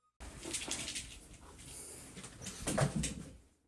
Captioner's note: Cat toy rattling, Osha running into wall